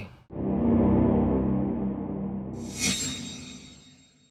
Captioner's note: loud whooshing